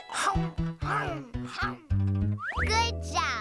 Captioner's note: chomping